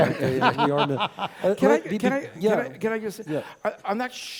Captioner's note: laugh